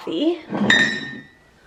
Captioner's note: mugs clinking